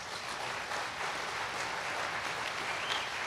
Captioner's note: applause